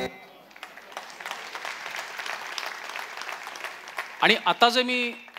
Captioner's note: applause